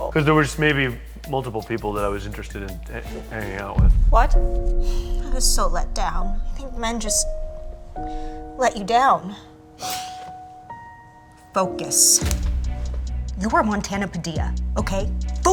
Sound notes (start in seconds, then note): 4.5 tense music; 5.0 sighing; 6.0 soft slow music; 9.7 inhaling